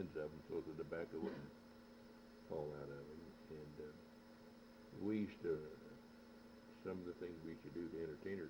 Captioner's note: laughs